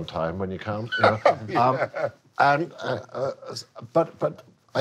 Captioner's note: laughing